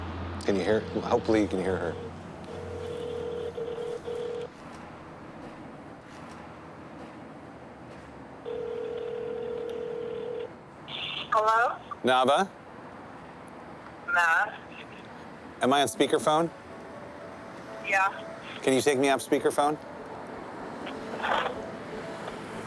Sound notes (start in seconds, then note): 2.4 phone rings